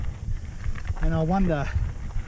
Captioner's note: wheels crunching